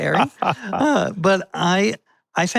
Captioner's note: both laughing